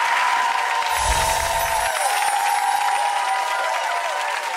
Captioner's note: applause